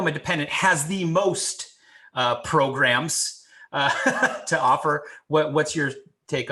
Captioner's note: chuckling